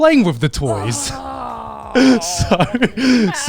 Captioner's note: groaning